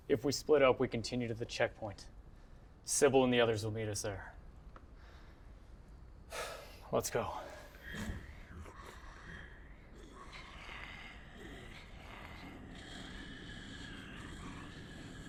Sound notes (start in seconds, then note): 6.4 sighing; 10.3 growling